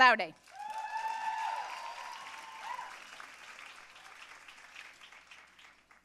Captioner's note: audience cheering and applauding